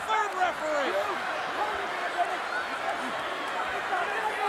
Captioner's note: crowd yelling